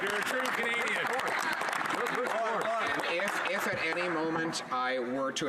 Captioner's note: some Applause